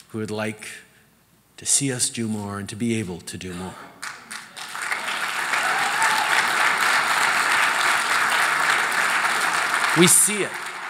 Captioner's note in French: Applaudissements